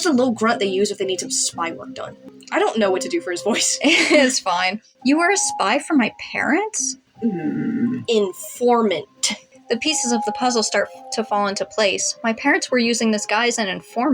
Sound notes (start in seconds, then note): 3.5 laugh; 7.2 Mr. Invisible Growls